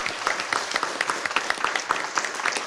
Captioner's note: applause